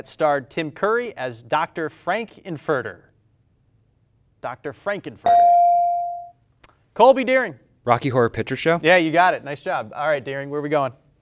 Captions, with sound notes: that starred Tim Curry as Dr. Frank-N-Furter? Dr. Frank-N-Furter. (bell rings) Colby, Deering. - Rocky Horror Picture Show. - Yeah, you got it. Nice job. All right Deering, where are we going?